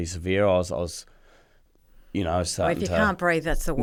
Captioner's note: breathes quickly